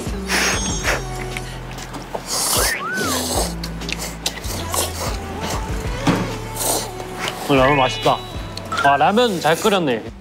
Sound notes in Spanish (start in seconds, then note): 2.2 El lugar se llena con el sonido de sorber